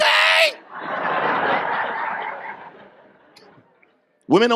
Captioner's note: audience laughs